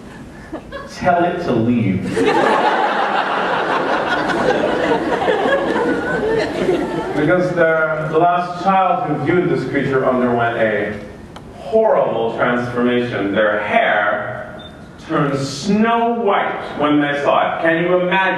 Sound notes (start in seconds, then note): 4.6 laughter